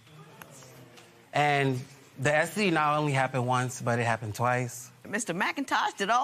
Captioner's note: spectators murmur